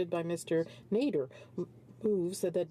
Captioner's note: speaking French